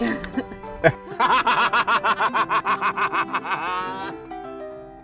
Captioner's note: laughs